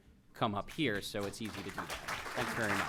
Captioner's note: applause